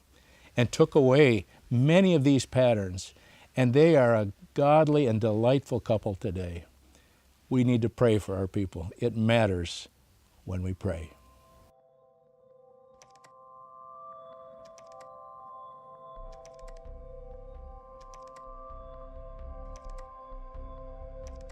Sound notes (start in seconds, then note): 13.7 gentle music; 14.6 keyboard clacking